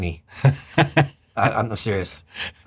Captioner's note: laughter